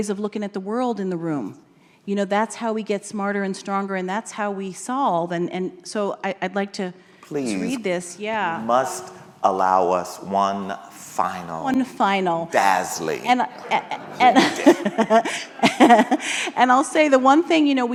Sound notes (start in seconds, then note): 15.6 laughs